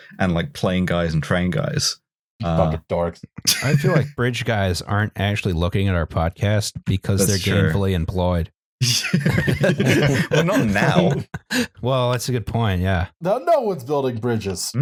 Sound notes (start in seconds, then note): 3.4 laughs; 8.8 laughter